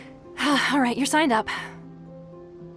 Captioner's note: sigh